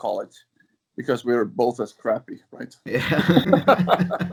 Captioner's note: laughs